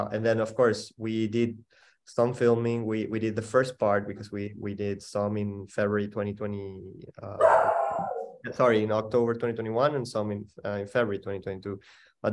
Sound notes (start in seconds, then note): 7.4 dog barking